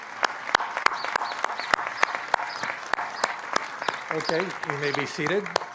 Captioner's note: applause